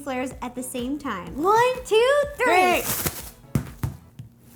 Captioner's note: multiple slapping noises as the dough hits the counter